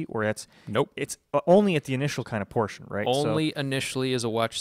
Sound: emphatic

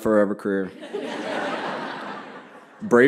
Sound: laughter

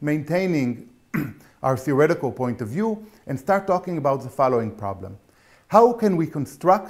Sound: cough

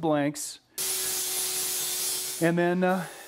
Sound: loud grinding

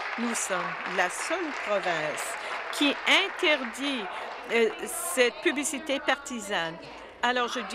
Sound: applause

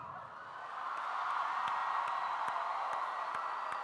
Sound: applause

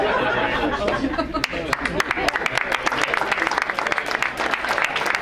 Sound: crowd laugh and applaud

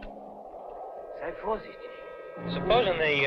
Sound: speaking in a foreign language

